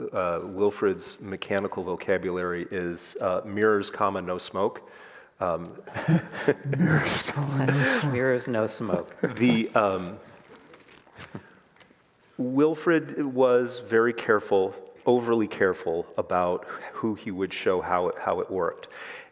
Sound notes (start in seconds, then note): 5.9 all laugh